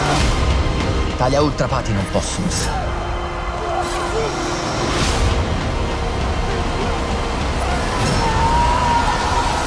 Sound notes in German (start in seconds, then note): 3.6 Ächzen; 7.4 Kampfgeschrei